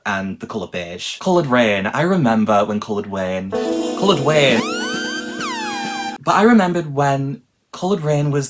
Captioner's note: sirens